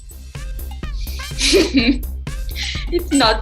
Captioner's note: laughs